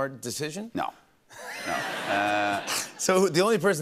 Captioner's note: laughter